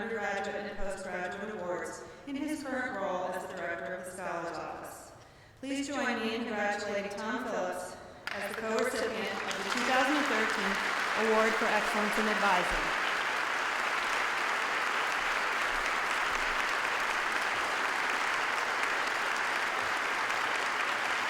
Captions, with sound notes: undergraduate and post-graduate awards in his current role as the Director of the Scholar's Office. Please join me in congratulating Tom Phillips as the co-recipient of the 2013 award for excellence in advising. [APPLAUSE]